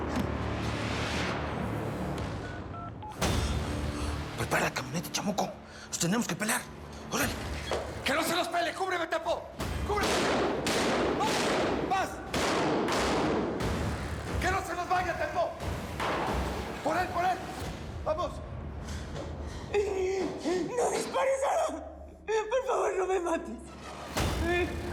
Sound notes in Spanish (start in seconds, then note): 12.2 continúan los disparos; 19.4 sollozos